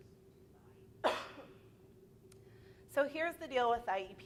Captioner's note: coughing